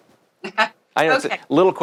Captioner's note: laughs